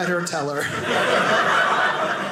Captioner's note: audience laughing